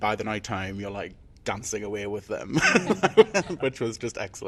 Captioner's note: laughs